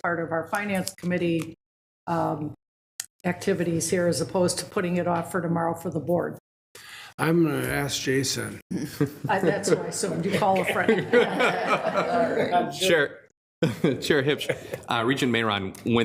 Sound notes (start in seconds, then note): 10.9 group laughing